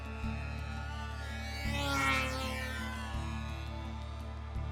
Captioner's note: UAV buzzing